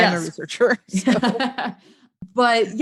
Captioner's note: laughing